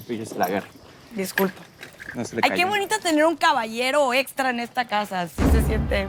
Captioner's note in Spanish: none